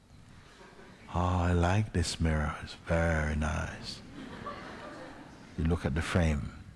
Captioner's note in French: Rire